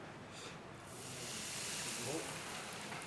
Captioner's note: sizzling sounds